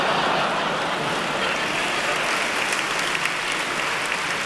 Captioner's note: laughter and applause